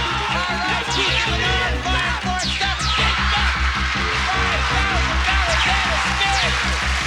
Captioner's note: aH@udiencH@e applH@auding